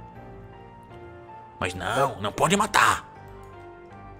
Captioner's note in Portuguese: Imitando o Veríssimo